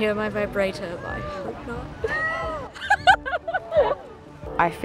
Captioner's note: laughs